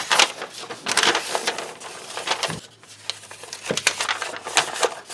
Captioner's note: paper crinkling